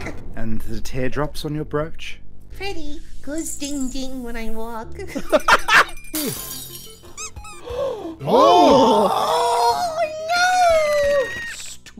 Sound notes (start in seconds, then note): 5.0 laughter; 7.0 squeaky toy sfx